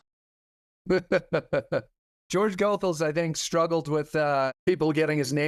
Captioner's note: laughs